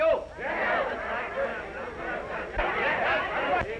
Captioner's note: all chattering